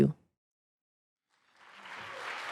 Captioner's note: applause